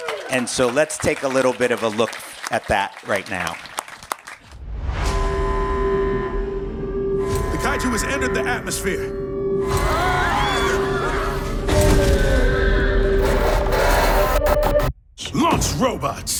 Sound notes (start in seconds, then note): 0.0 applause; 9.7 crowd yelling